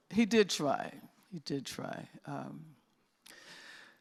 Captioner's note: none